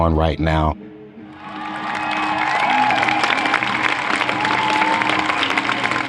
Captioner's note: applause